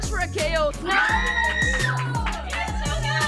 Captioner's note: cheering